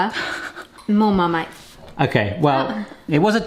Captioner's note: laughing